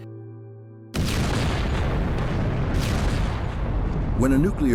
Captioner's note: loud explosion sequence